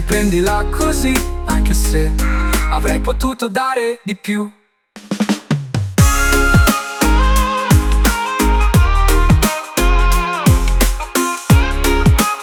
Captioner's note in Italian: mmm